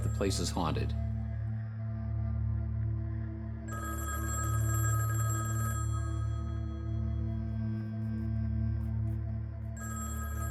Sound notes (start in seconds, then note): 3.7 telephone ringing